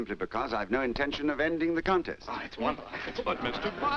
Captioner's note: murmuring, that’s wonderful!